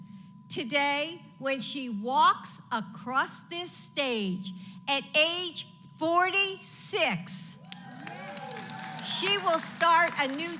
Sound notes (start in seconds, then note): 7.6 applause